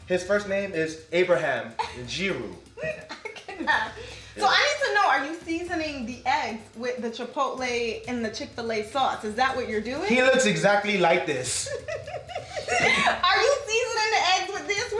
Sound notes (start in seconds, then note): 2.8 chuckles; 11.5 laughs